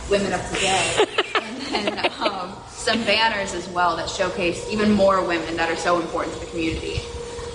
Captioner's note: laughter